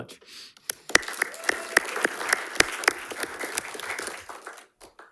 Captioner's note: attendees clapping